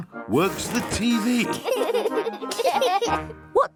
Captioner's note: laughter